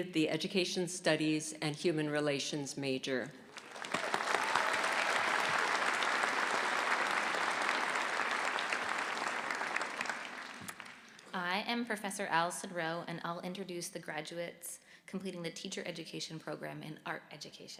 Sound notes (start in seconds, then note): 3.4 applause